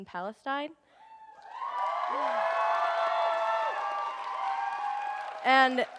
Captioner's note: audience cheers and applauds